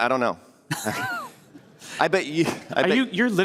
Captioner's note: laughter